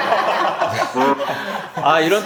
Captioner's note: giggles